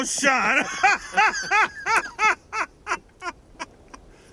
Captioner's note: laughter